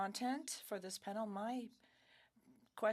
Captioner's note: speaking French